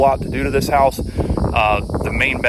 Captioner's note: wind blowing